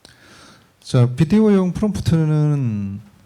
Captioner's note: speaking korean